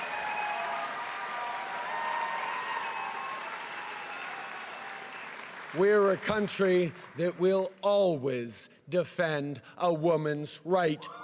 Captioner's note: cheering and applause